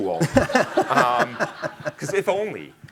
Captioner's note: laughing